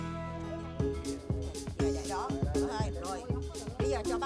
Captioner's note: speaking Vietnamese